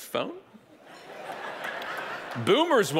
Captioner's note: audience laughing